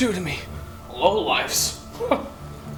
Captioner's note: scoff